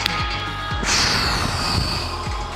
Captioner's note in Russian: Выдох